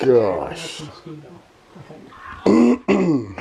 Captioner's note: coughing